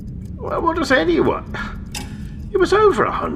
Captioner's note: scoffs